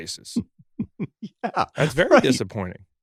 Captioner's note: laughs